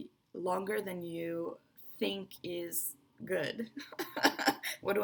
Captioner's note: laughter